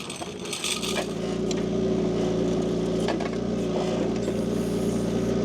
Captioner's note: machine rumbling